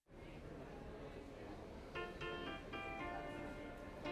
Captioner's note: restaurant chatter